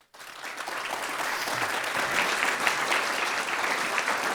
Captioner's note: students clapping